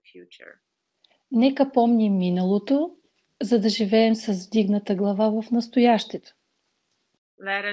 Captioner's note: foreign Language followed by English Interpreter